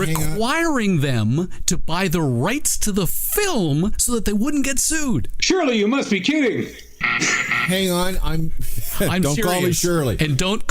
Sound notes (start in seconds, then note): 7.0 buzzer sounding